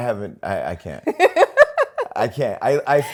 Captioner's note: laughs